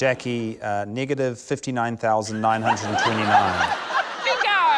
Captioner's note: laughter